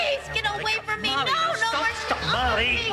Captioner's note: Lasky shouting